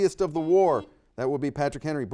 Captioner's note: buzzer dings